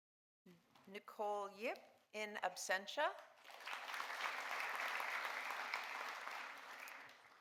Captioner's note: audience applauding